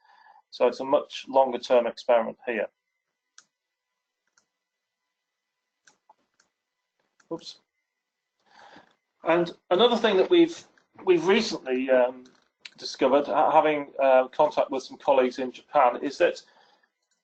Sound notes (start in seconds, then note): 4.6 pause